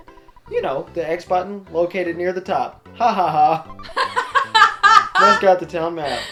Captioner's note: big laugh!